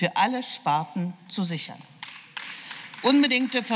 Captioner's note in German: Beifall